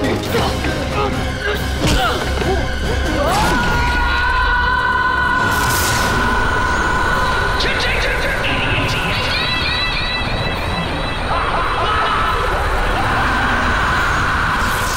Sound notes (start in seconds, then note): 3.2 screaming; 10.7 Time Jerker laughing; 11.3 screaming